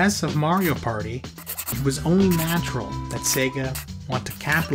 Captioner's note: scribbling